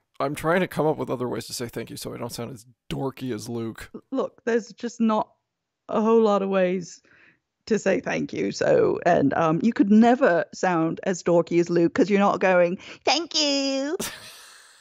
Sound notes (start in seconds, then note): 11.8 in high whiny voice; 14.0 laughs